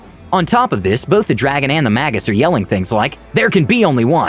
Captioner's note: yell